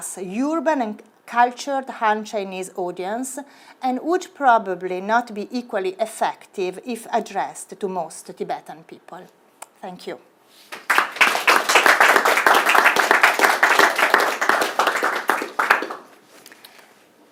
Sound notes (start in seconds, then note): 10.7 audience applauds